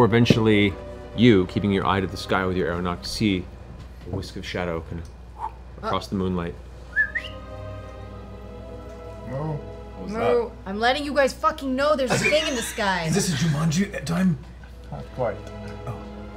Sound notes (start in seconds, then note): 6.8 whistles